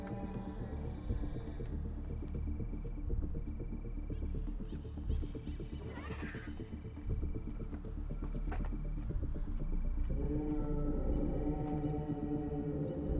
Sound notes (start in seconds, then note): 5.8 dinosaurs screeching; 10.0 dramatic music